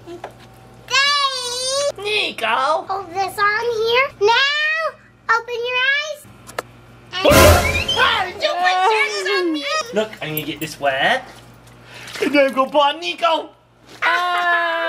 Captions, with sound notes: - Daddy! - Niko! - Hold this on here. Now, open your eyes. - (yells) Hey, did you put sharks on me? Look, I need to get this wet, and then I gonna put on Niko!